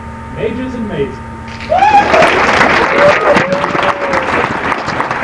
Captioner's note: applause